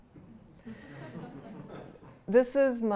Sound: laughter

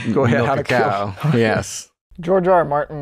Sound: laughter

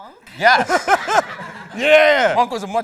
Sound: laughs

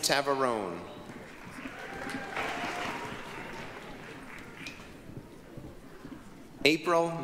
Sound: applause, cheering

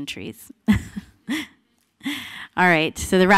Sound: laughter

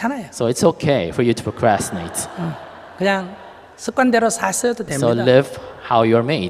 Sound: audience laughter

